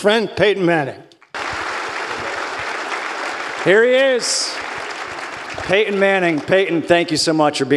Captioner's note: applause